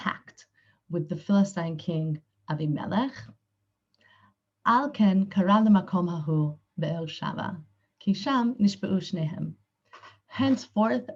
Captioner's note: Hebrew